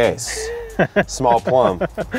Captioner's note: laughs